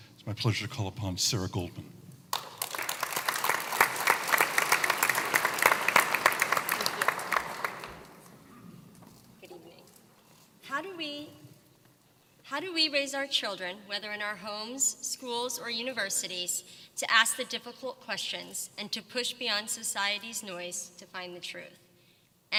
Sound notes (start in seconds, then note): 2.3 applause